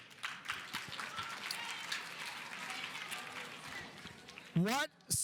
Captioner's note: audience applauding